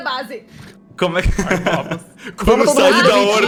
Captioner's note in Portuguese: risos